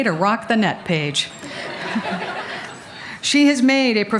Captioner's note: laughter